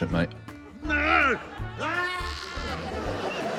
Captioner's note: groans, yells